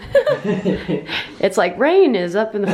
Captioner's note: laughs